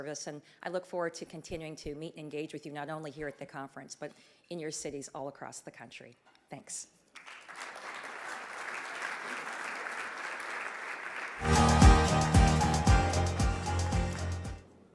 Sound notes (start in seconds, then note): 7.1 audience clapping; 11.4 upbeat energetic music